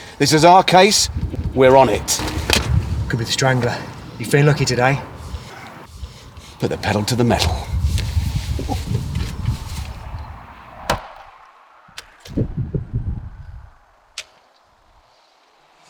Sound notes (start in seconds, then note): none